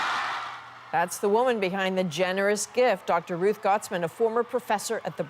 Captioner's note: cheers and Applause